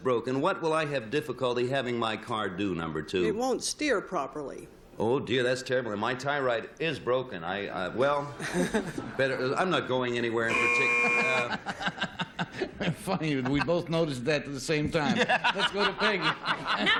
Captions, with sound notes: if my tie rod is broken, what will I have difficulty having my car do, number 2? - It won't steer properly. - Oh, dear, that's terrible. And my tie right is broken. I-- - Well-- I'm not going anywhere in particular. [buzzer] - Funny. We both noticed that at the same time.